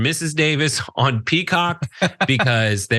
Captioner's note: laugh